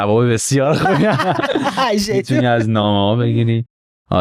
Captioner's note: laughs